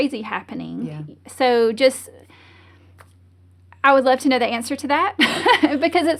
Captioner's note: laughs